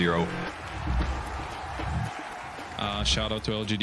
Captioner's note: crowd cheering